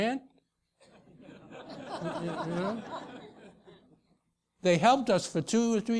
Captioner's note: laugh